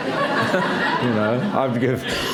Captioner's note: laughter